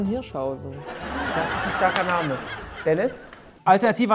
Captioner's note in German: Lachen